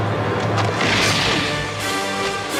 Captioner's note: gun shot rings